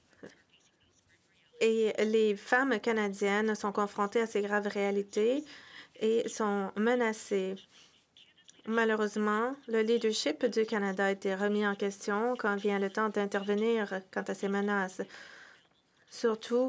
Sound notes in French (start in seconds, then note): 8.5 voix de l'interprète